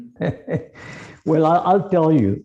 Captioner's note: laughs